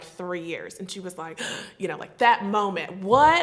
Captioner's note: gasps